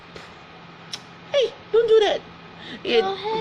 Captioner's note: clicks tongue